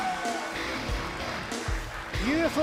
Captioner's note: bell